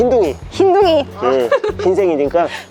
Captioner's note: laughter